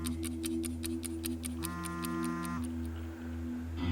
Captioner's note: mobile phone vibrating